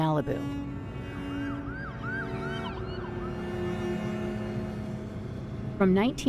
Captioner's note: traffic humming and sirens blaring